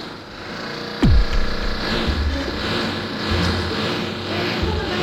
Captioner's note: loud noises start to echo throughout the house